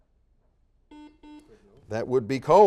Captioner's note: series of beeps